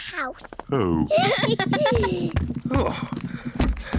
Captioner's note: all giggle